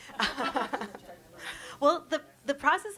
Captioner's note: chuckles